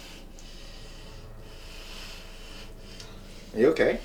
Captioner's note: inhaling deeply